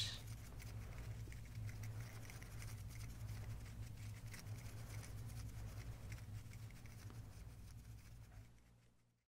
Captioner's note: finger fluttering sounds